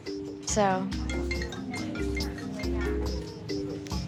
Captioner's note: cellphone rings